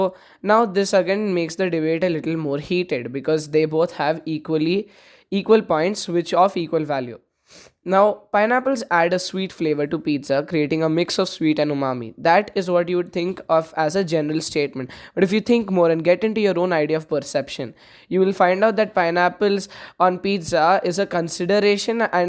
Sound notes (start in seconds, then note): 14.9 inhale